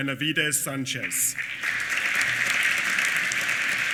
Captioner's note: applause